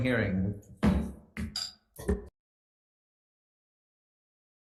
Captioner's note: gavel slamming